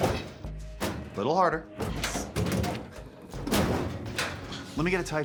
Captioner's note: cabinet rattling